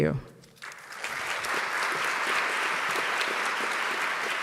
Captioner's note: audience clapping